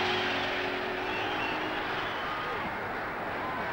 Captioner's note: cheering